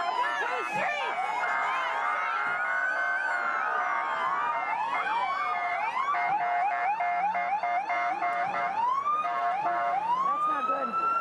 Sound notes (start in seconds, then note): 1.6 police sirens